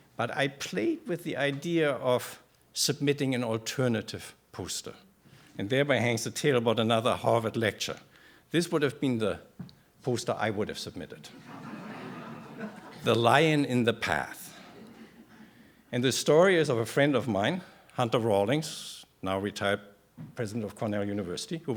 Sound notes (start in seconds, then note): 11.3 laughter